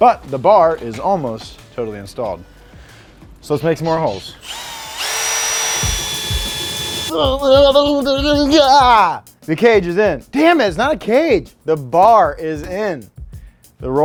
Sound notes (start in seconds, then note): 4.2 drill whirring; 7.1 groaning